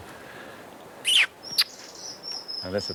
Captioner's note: birds chirping